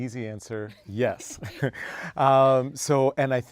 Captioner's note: laugh